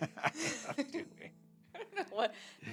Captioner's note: laughing